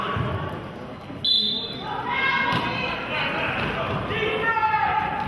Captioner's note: whistle blows